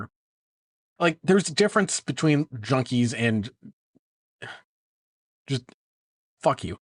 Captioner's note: sigh